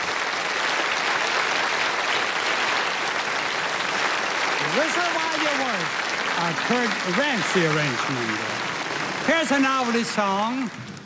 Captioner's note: applause